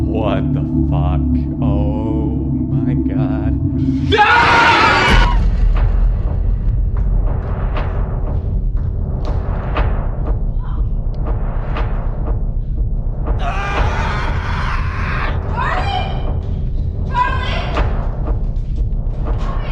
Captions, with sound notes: What the fuck? Oh my God. (screams) (screams) - Charlie. Charlie.